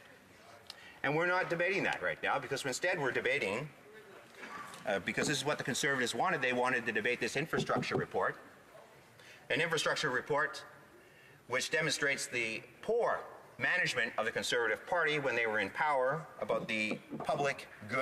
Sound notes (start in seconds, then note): none